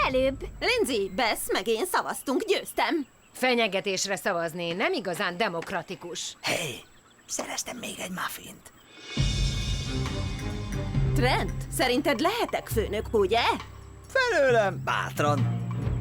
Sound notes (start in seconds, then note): none